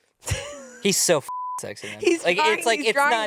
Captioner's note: beep